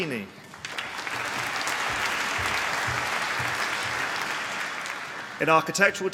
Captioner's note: applause